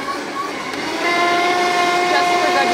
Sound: blender roars louder

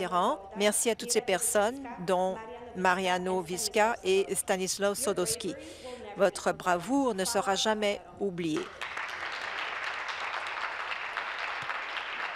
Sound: reading from list

